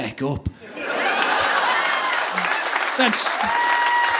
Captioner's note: audience laughing; audience applauding